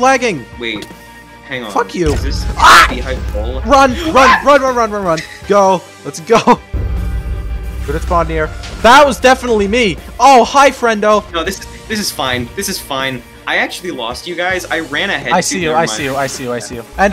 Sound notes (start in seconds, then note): 4.0 squeals; 7.7 explosions